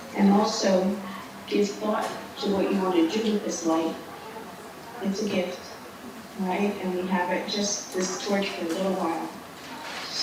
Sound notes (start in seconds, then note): none